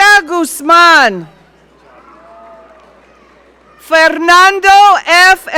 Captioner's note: audience cheering